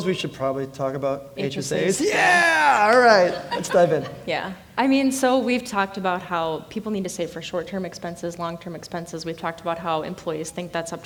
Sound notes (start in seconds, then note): 2.1 audience laughing